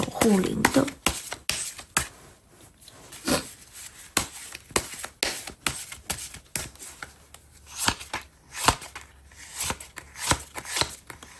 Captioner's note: drawing cards